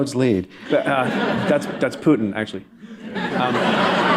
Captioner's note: laughter